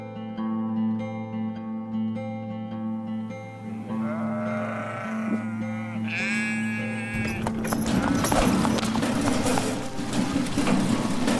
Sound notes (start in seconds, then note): 3.6 sounds of sheep bleating